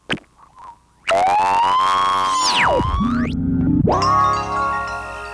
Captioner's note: tv static